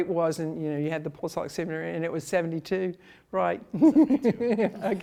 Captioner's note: laughs